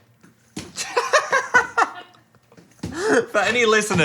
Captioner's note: laughing